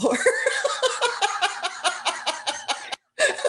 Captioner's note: laughter